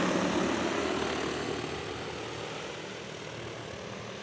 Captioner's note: blades whirring